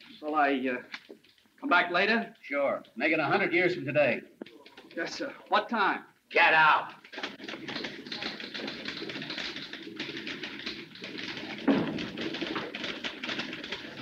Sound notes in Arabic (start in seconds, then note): 7.1 نقرات على مفاتيح الآلة الكاتبة